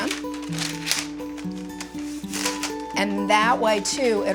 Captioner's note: parchment paper rustling